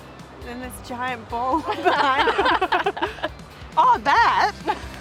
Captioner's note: all laugh